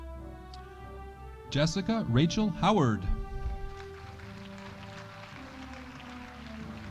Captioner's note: audience applauding